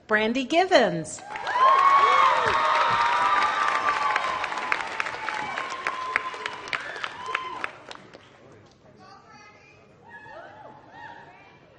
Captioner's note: applause